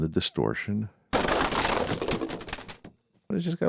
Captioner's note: crashing